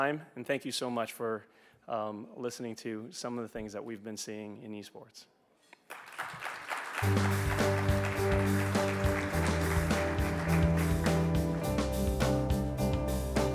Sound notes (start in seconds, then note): 5.8 audience applauds; 7.0 bright music